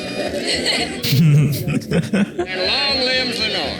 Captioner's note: laughs